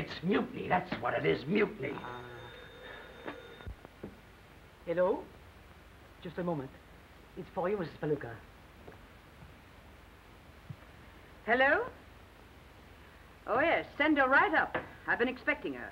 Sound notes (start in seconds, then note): 3.7 phone ringing